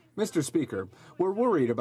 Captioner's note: speaking French